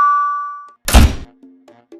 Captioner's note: door